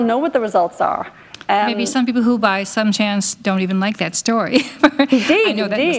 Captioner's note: chuckle